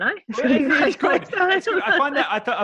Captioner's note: laughing